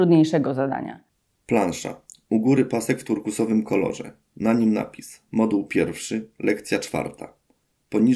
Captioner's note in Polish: Głos męski z offu, audiodeskrypcja planszy